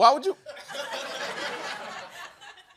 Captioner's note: laughter